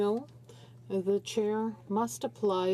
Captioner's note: speaking French